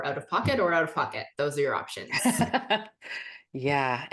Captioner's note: laughs